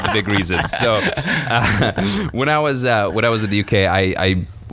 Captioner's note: laughs